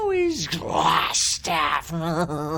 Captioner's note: laughs